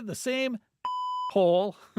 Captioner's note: beep